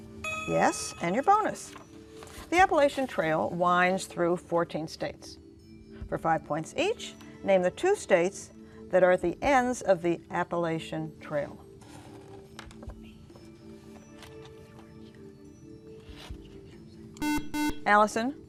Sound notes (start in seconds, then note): 12.7 whispering; 17.2 buzzer